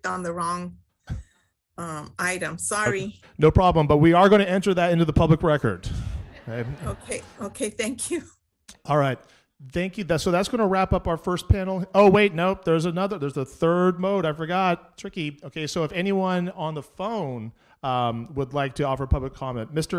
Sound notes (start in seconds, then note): 5.9 audience laughing